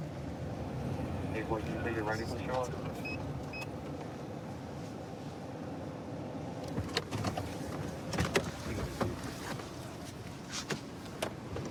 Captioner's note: indistinct dispatch speech